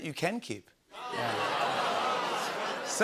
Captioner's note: audience groans